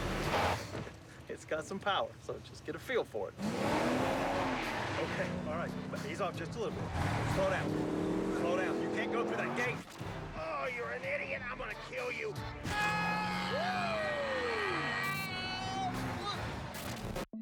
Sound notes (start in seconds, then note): 3.4 engine revs; 12.6 screaming